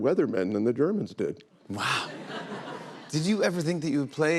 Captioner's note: laughter